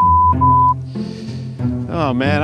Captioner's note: beep